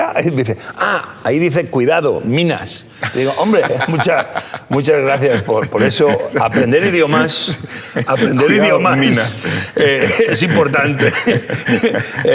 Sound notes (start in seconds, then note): 5.5 laughing